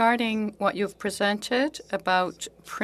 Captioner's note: speaking French